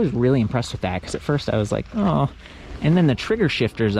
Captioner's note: groans